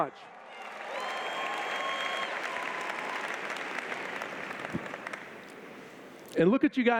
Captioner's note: applause